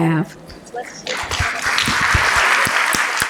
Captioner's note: applause